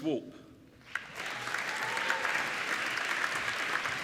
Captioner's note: applauding